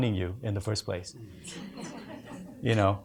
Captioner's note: audience laughs